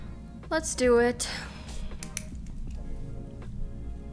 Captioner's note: pen clicking